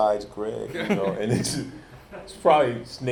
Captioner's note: laughs